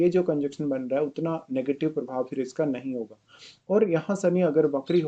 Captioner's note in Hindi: नाक से की जाने वाली आवाज़